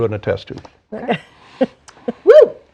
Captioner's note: laughs